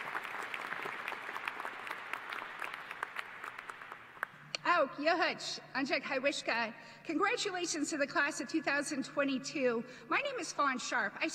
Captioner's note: applause